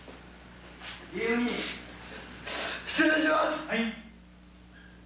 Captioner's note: speaking Japanese